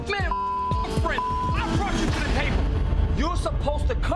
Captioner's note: beep